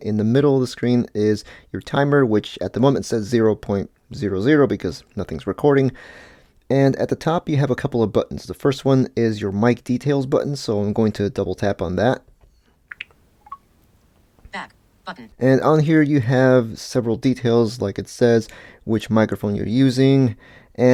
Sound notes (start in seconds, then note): 12.9 popping sounds; 13.7 VO screenreader